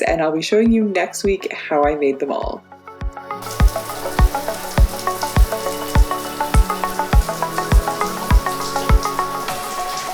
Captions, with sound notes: and I'll be showing you next week how I made them all. (running water splashes) (upbeat pop music)